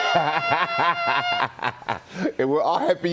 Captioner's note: laughter